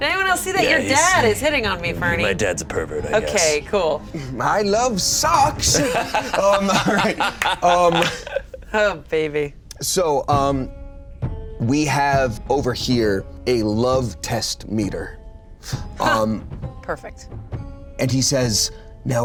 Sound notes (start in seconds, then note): 5.6 laughing